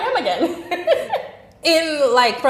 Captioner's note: laughing